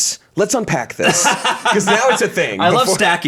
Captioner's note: laughs